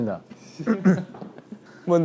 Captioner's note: clearing his throat